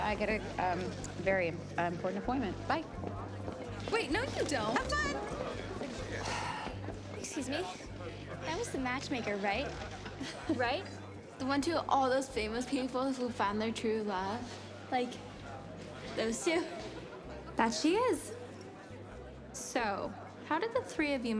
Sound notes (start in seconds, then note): 6.1 sighs; 10.1 chuckles